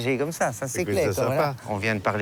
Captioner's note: speaking in foreign language